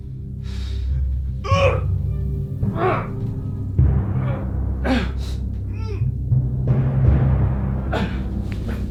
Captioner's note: wincing in pain